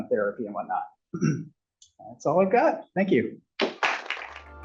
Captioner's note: applause